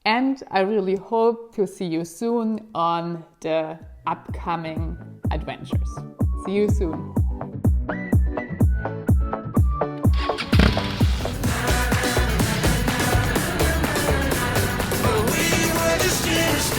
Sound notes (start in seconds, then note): 7.6 upbeat music; 10.1 motorbike engine revving